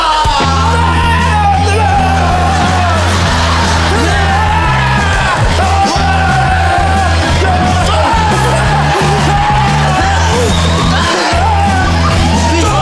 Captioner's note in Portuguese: gritos